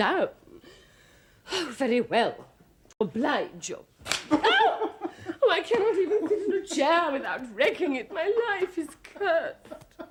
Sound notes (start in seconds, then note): 4.0 Chair breaks, Epifania falls back; 4.3 Sagamore laughs; 9.6 Sagamore keeps laughing